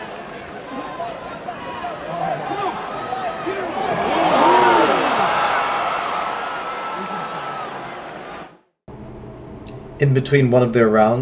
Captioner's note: crowd Cheering